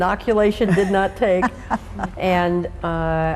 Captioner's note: laughs